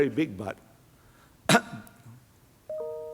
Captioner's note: coughs; gadget chimes